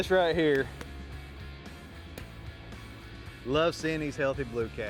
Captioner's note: hand tapping